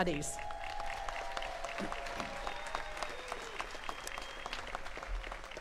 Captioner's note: attendees cheering and clapping